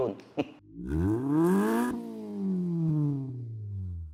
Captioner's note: engine revs